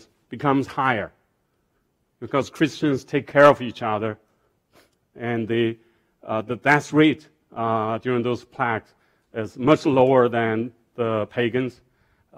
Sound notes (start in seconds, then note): none